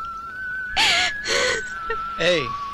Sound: crying

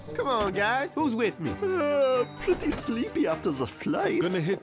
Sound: yawning

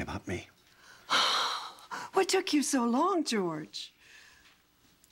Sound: sighs

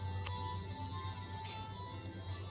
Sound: none

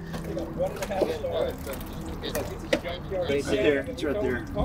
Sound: crowd chattering

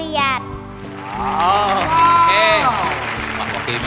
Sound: applause

